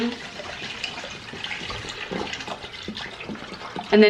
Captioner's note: water sloshing